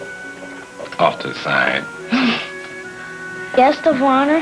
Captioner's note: chuckling